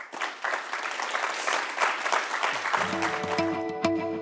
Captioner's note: applause